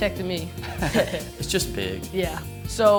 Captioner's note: chuckling